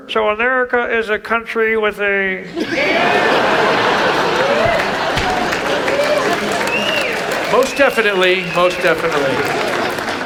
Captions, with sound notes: - So America is a country with a... (audience laughs) (audience applauds) - Most definitely, most definitely.